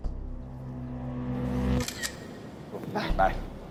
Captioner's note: phone camera shutters